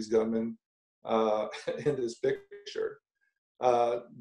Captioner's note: laughs